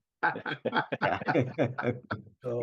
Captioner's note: all laughing